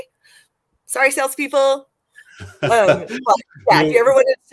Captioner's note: laughter